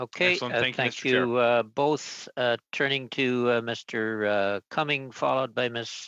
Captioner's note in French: voix de l'interprète